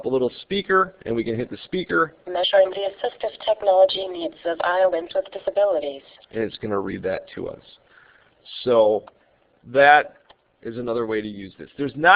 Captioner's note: computer reading